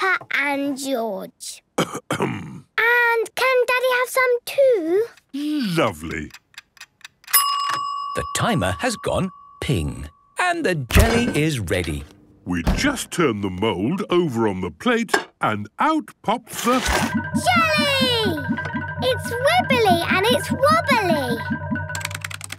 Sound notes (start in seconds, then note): 1.8 coughs; 7.3 dinging